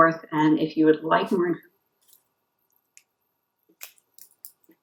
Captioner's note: audio cuts out